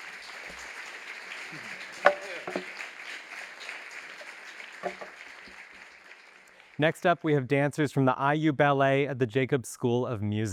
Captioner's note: applause